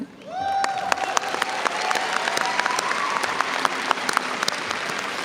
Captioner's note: audience cheers and applauds